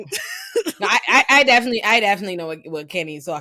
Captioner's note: laughing